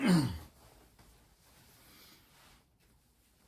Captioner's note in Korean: 목을 가다듬음